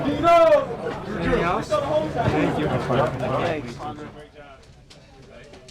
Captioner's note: group chattering